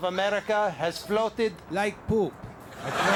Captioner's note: audience laughs